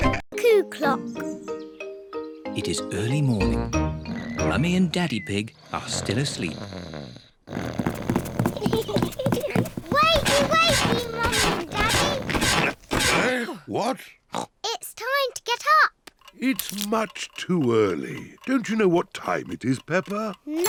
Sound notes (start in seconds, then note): 7.3 snores; 7.8 both giggle